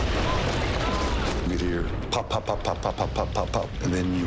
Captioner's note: mimicking explosion sounds